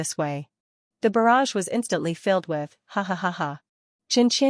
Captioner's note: hahahaha